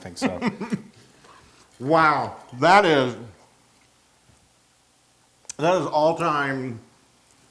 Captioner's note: laugh